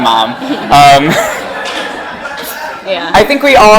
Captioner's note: laughing